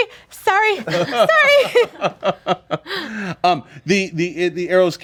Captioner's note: group laughing